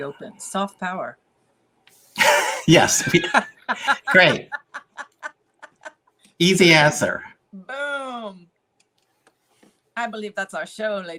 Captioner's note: laughter